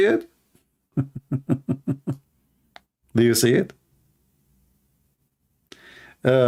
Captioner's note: Ketawa